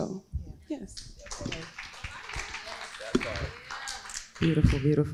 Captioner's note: crowd applauding